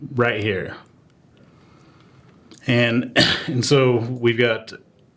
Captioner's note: cough